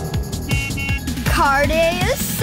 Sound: horn

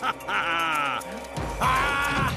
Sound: evil laugh

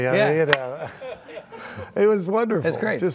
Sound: laughing

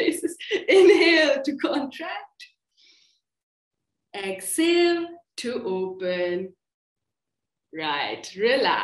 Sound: laughter

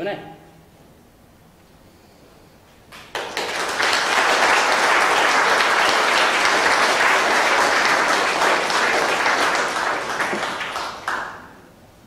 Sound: clapping

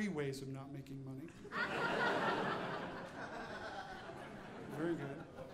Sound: audience laughing

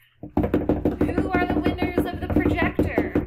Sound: hands beating

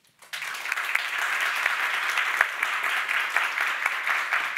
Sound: audience applauding

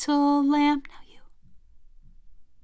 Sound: whispers

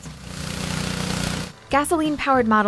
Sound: motor

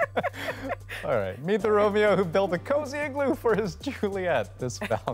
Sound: laughter

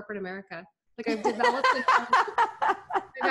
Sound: laughs

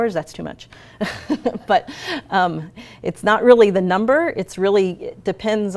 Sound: laughs

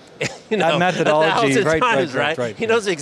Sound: chuckles

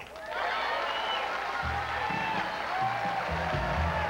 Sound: cheers and applause

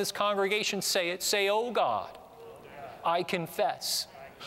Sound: audience repeats prayer throughout

